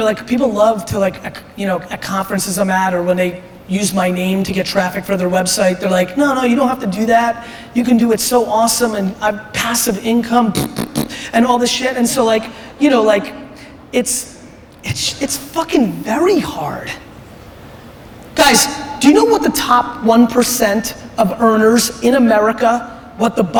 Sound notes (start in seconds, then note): 10.5 blows raspberry